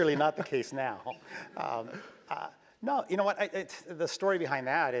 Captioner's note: laugh